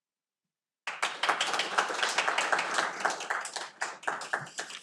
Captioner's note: audience applauding